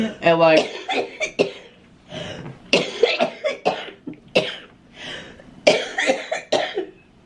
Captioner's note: coughing